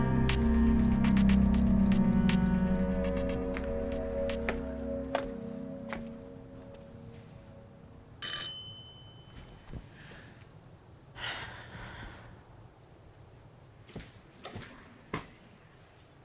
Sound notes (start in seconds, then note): 0.0 ominous music continues; 3.0 footsteps tapping; 8.2 doorbell rings; 11.1 Claire sighs